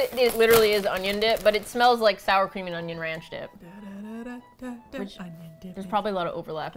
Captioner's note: hums "Y'all Ready for This" tune